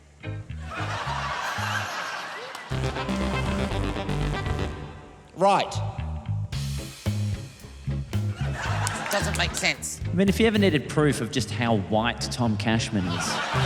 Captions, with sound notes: (LAUGHTER) (FUNKY KEYBOARD NOTES PLAY) Right. Doesn't make sense. I mean, if you ever needed proof of just how white Tom Cashman is...